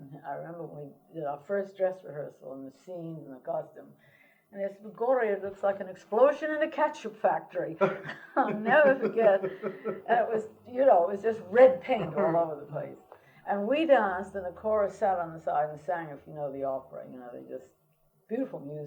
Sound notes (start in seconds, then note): 7.7 laughter